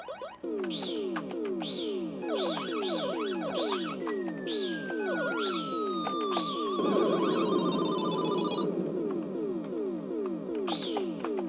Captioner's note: Galaxian noises